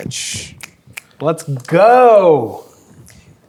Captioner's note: snapping fingers